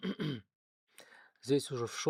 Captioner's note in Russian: откашливается